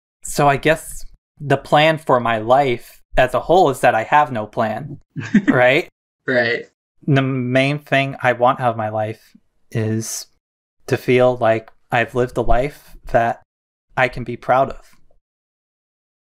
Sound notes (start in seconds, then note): 5.2 laughs